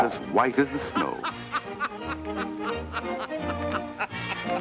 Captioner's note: jolly laughing